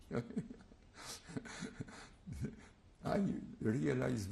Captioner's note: laugh